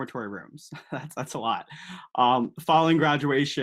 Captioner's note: laughs